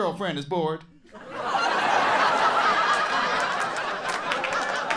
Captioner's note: audience laughing